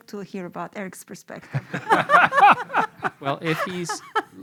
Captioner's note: laughter